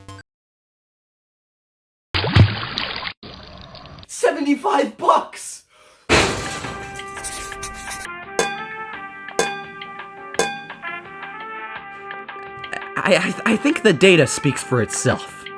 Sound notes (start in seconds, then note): 5.6 breath; 6.1 SLAM, breaking glass; 9.4 ding; 10.4 dong; 10.4 dang